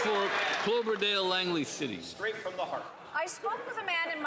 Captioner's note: some Applause